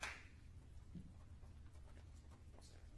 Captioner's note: applause